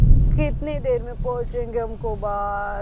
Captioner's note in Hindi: बादलो की गडगडाहट